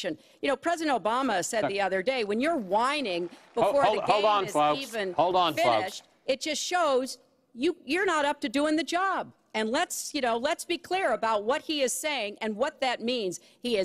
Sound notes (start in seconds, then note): 2.8 applause